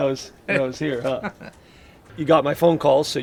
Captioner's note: laughs